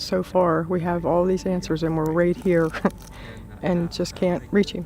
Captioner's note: slight giggle